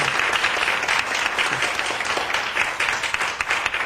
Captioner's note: applauding